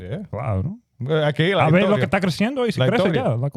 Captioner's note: speaking In Foreign Language